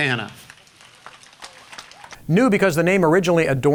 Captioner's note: applause